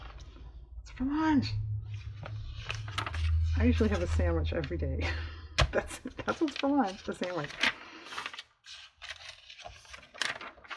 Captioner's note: laughs